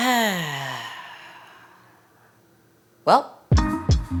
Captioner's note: sighs; chill music